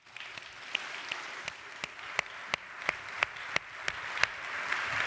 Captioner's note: audience applauds